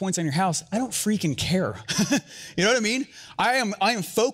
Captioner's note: laughs